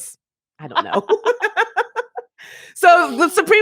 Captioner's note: laugh